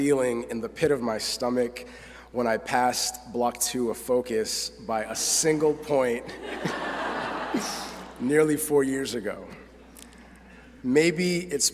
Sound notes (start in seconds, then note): 6.2 laughter